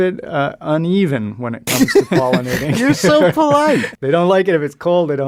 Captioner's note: laughs